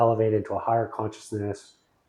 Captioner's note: laughing